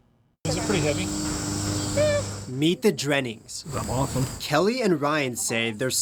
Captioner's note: family talking